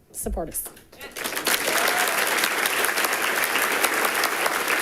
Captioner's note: people clapping